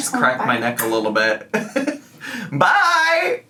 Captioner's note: laughs